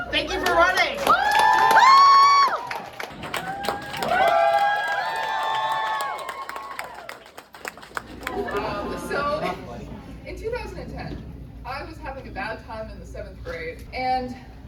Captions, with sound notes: Thank you for running. (crowd cheers) so in 2010 I was having a bad time in the seventh grade. And.